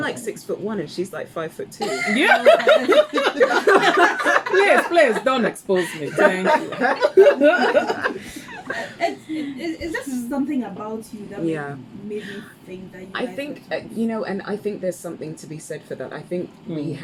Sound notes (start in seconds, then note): 3.9 laughs; 7.9 continues laughing